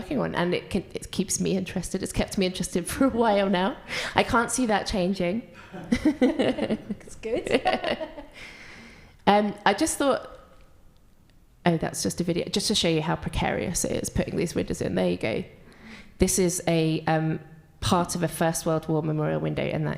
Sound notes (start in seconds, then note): 3.8 laughs; 5.6 laughs; 8.4 pair laughs